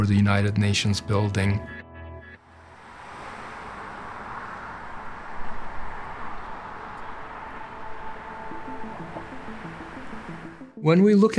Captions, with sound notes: for the United Nations building. [engines rumbling] [intriguing music]